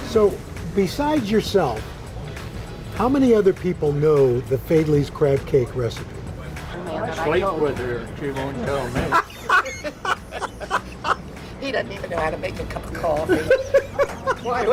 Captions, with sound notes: So Besides yourself, how many other people know the Faidley's crab cake recipe? (laughs) - He doesn't even know how to make a cup of coffee.